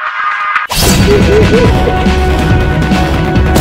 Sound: spirit's laughing

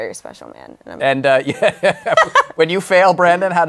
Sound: laughs

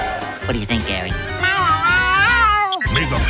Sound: speaking gibberish

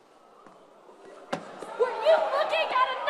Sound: chatter

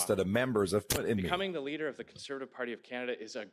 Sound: speaking french

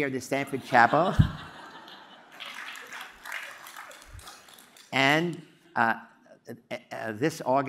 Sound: applause

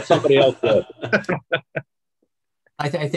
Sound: laughs

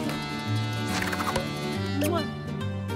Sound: kissing

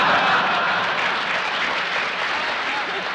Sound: laughter; applause

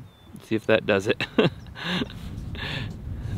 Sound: laughs

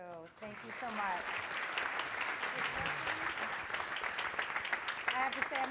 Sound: applause

